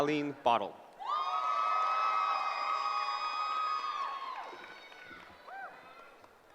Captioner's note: cheering